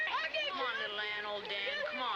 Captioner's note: boys arguing